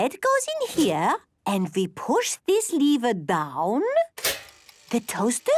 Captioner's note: clicks